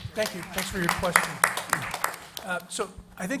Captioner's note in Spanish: Aplausos